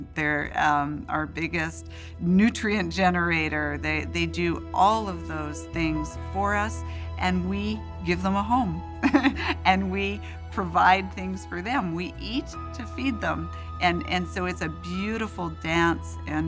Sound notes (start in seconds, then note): 9.0 laughs